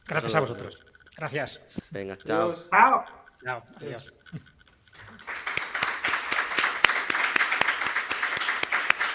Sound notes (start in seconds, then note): 4.9 the crowd applauds